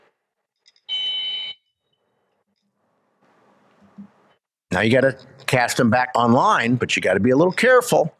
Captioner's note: whistle blows